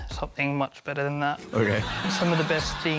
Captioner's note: laughter